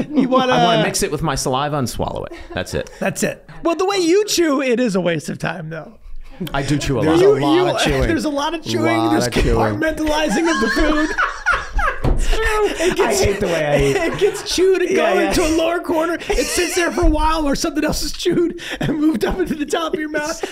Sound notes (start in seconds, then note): 3.2 Meg laughing; 11.7 everyone laughing